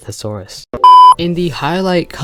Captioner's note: bep